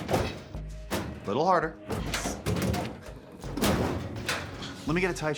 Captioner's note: cabinet rattling